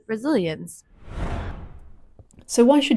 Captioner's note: transition sound